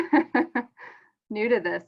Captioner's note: laughs